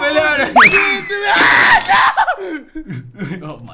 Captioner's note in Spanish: Grita